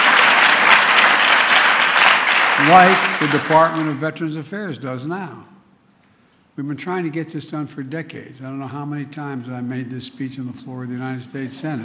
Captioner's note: applause